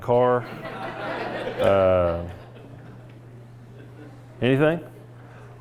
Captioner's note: laughter